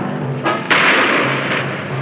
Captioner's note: shot firing